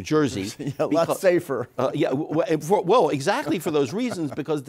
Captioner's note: laughs